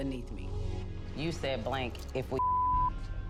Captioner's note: beep